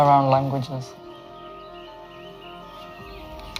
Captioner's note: birds chirping